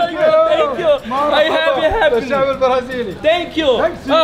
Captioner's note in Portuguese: Falas em árabe